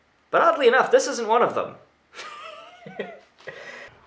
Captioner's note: laughs